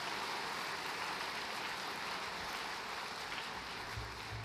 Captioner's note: applause